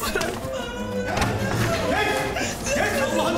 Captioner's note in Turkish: Ağlama sesleri